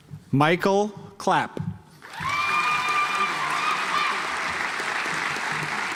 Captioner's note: audience applauds